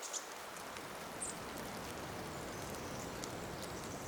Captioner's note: rain splashing